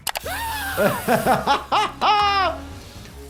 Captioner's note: laughs